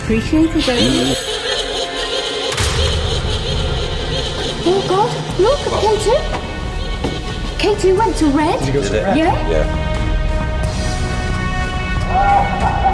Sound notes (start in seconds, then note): 1.2 echoing laughter; 10.7 sinister music